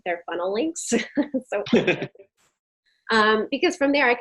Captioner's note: both chuckling